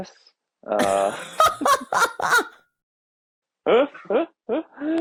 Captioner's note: both laughing